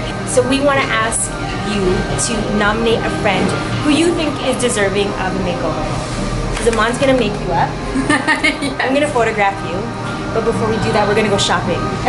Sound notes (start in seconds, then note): 7.9 laughs